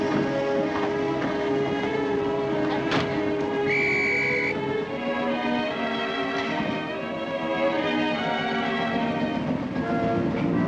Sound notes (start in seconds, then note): 3.6 whistle blows